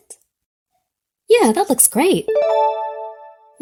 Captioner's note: check mark dings